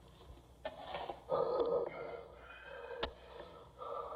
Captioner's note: Maitland Breathing Heavily